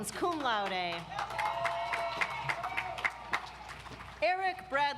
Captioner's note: audience applauds